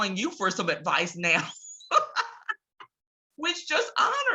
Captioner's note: laughs